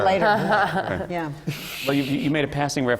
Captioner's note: laughter